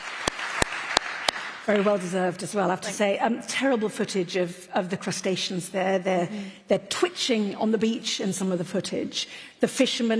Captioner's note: applause